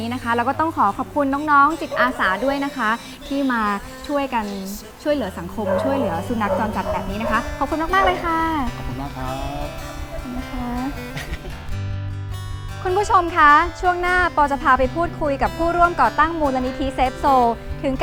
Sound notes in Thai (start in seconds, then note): 11.2 หัวเราะ